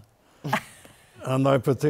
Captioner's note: laughter